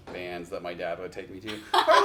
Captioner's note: laughs